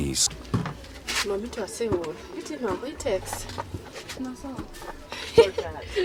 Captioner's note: family speaking in non-English